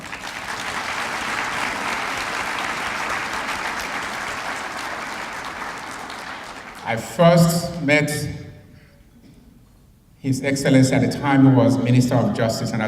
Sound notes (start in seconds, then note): 0.0 applause